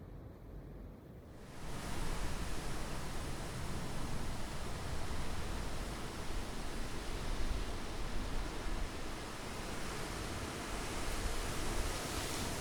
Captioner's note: gale